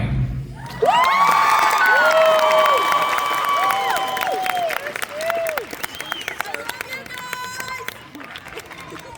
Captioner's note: applause